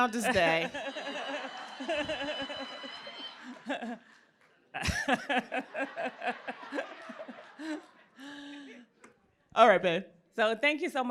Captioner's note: laughter